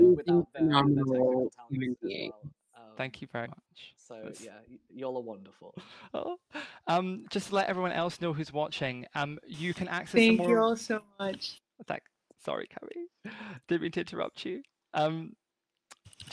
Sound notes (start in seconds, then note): 5.8 laughs